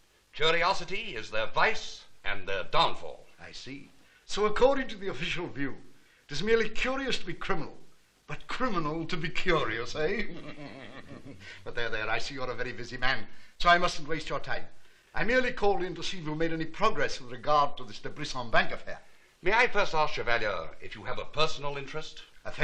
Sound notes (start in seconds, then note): 10.1 chuckling